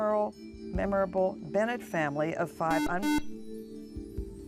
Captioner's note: buzzer